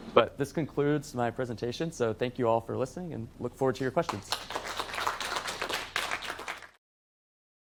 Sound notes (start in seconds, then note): 4.0 applause